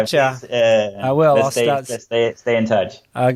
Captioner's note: chuckles